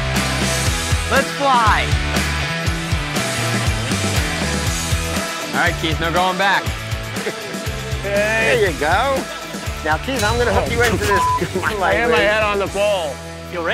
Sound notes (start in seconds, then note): 2.4 upbeat, joyful music; 10.8 beep